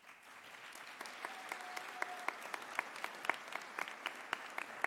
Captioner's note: audience applauding